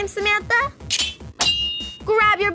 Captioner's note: sword slashing